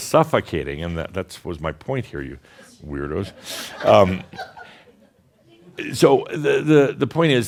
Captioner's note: a few more giggles